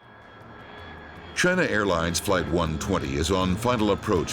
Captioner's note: voiceover